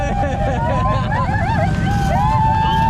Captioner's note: laughing and cheering